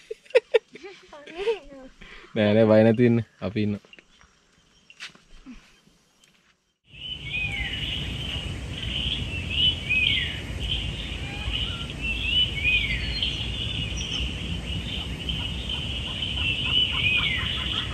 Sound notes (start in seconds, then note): 0.0 laughing; 6.5 birds chirping